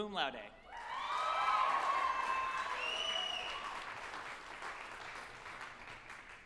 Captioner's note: group applauding and cheering